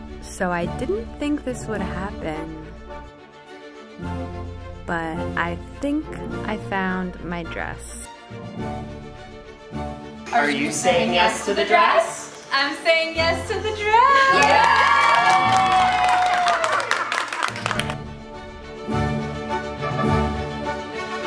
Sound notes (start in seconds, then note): 8.0 upbeat orchestral music; 13.0 crowd cheers; 17.4 upbeat orchestral music